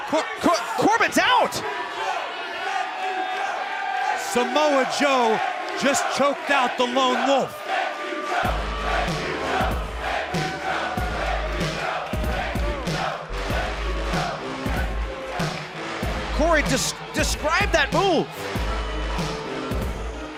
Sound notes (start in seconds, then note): 10.1 fans chanting